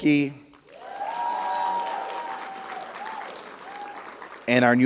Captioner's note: audience applauding; audience cheering